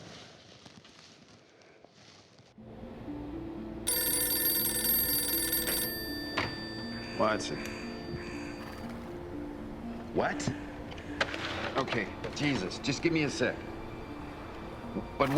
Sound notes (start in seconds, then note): 3.2 dramatic music; 3.8 telephone ringing